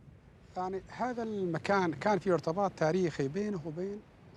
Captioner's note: Arabic spoken audio